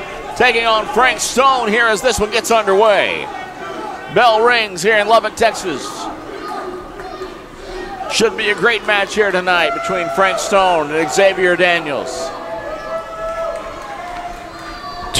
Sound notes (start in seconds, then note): 6.1 crowd chants; 12.3 crowd cheers